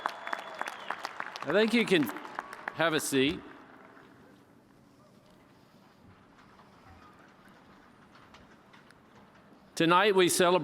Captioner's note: cheers and applause